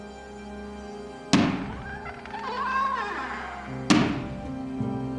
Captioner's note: creaking door